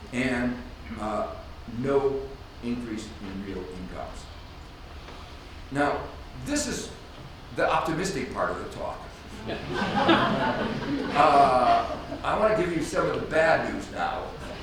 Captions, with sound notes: and no increase in real incomes. Now, this is the optimistic part of the talk. (audience laughs) I want to give you some of the bad news now.